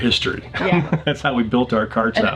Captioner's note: laughing